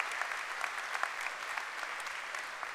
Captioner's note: cheering and applause